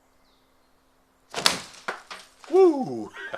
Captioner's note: glass shatters